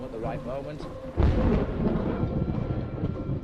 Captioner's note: thunder rumbles